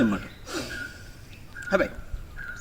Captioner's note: deep Breath..keep it in